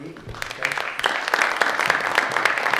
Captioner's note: audience clapping